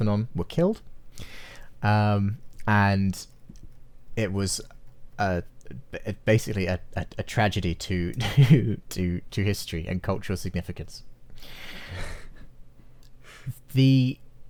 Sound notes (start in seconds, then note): 11.8 both chuckle